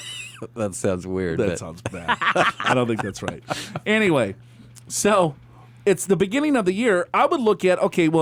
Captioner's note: laughs; laughs